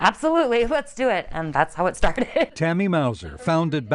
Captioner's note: chuckles